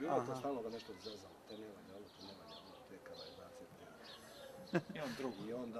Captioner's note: laughter